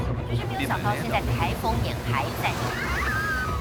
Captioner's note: weather disaster reporting in Japanese; screaming